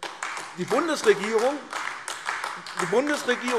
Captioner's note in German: Beifall AfD